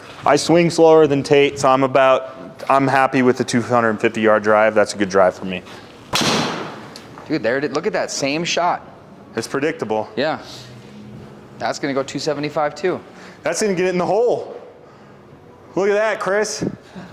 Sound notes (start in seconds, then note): 6.1 impact of ball thudding; 6.1 club swishing and clicking